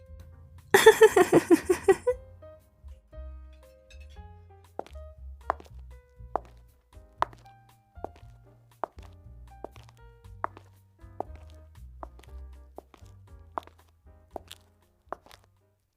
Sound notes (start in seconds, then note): 0.7 laughs; 4.0 steps